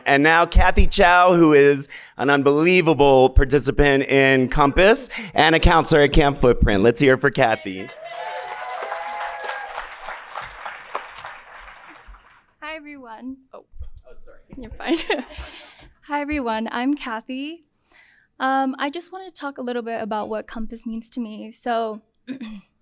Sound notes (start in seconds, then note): 7.4 audience cheering and clapping